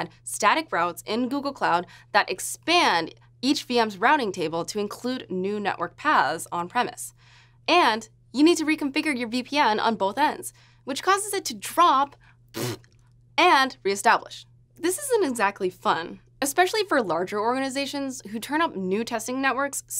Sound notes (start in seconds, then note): 12.5 raspberry